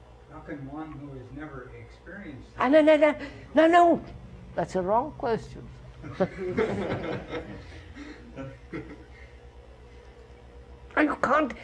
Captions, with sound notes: Q:How can one who has never experienced... K:No, no, that's a wrong question, sir. [Laughter]